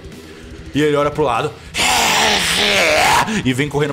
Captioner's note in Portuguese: reeergh